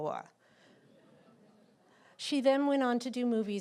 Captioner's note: laughter